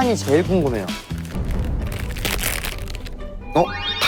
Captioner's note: unwrapping